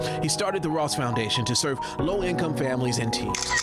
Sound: picture snaps picture

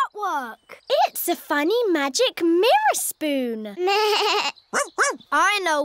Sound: bleats

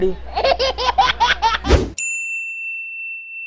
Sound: laughter

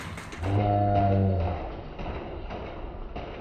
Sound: slow motion sounds

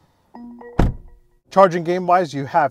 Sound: car door thuds

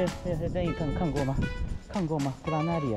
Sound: speaking foreign language

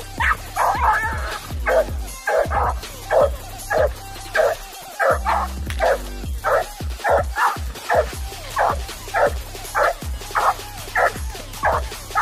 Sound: barking

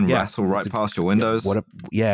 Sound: keyboard tapping

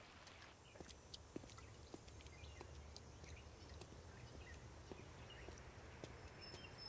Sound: birds chirping; bugs buzzing

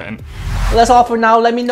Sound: intense whooshing

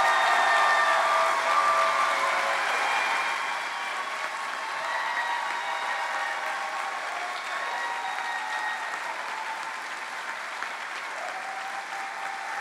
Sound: cheering

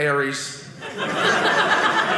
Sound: audience laughing

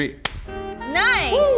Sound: gloves snapping

